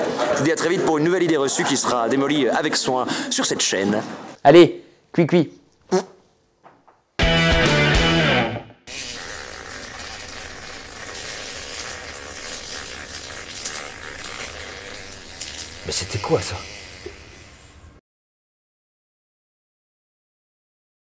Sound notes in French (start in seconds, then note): 5.9 prout; 8.8 Bruit de pet